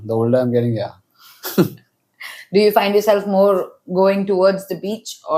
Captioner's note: laughs